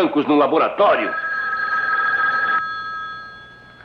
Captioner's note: phone Ringing